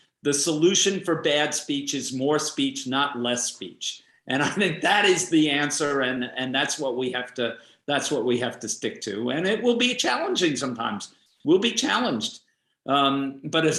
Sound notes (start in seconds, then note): 4.4 laughs